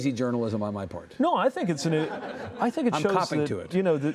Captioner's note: laughing